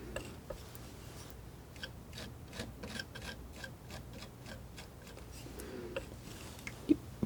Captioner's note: scratching